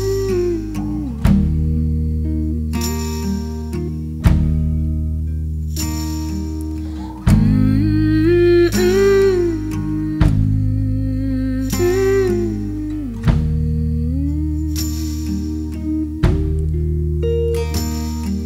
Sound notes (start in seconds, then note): 6.6 humming "Mmm Mhmm"